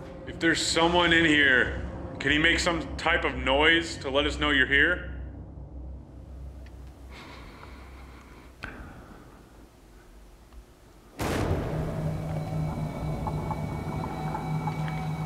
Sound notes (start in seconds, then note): 7.0 heavy breathing; 11.2 dramatic music playing